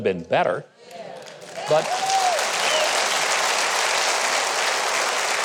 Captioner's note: audience applauds